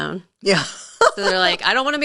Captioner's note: laughing